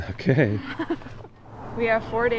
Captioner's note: laughing